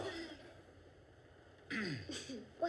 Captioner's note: clears throat